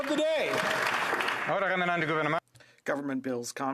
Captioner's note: some Applause